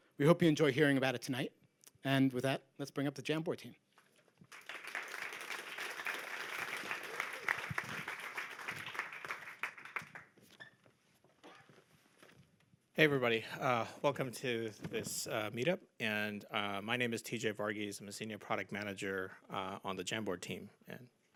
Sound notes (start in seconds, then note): 4.4 applause